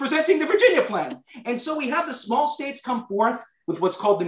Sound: laughter

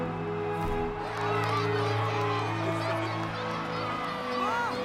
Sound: cheering

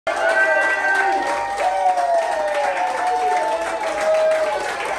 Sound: audience cheers and applauds

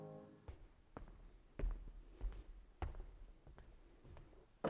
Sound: footsteps tapping

